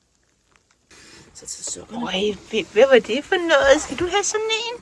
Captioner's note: Danish